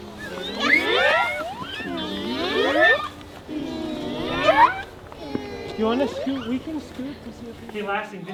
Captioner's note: kids imitating bird call